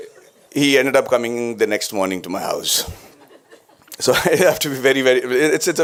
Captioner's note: laughter